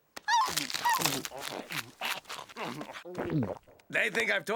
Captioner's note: loud chewing and swallowing